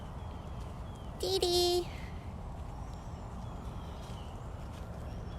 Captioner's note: traffic noise